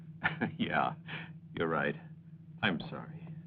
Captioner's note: laughs